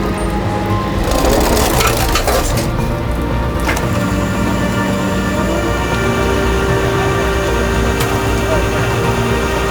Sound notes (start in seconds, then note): 0.9 car part scrapes; 5.4 slow dramatic music continues